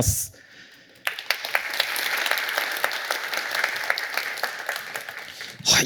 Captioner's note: applause